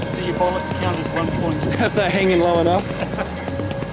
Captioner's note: chuckles